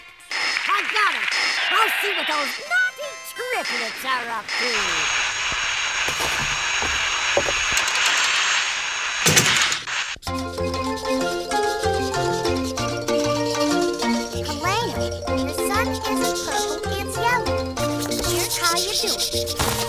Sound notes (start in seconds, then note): 5.0 static; 10.4 playful music